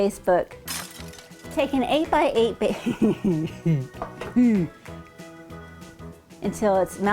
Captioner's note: laughing